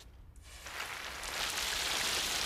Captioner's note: splashing